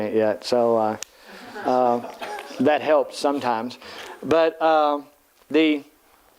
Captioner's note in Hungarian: Nevetés